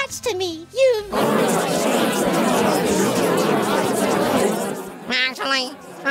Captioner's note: chatting noises